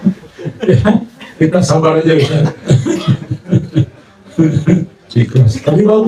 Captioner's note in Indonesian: tertawa